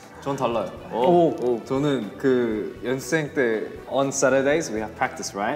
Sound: speaking in Korean

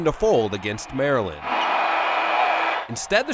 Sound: crowd

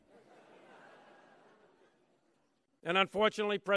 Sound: laughter

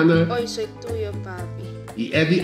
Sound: Spanish

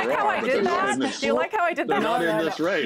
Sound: laughter

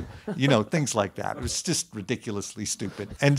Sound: laughing

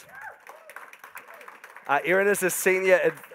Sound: audience applauding

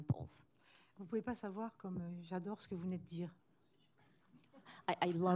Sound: speaking french

